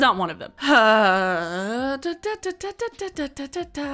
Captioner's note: humming